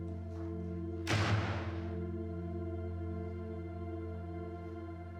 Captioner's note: door slamming